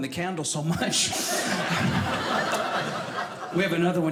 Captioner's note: audience laughing